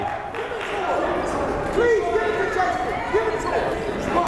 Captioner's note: yelling